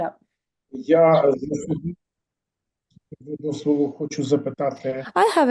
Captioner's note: non-english speech